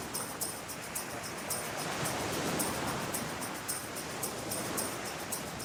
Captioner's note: waves crashing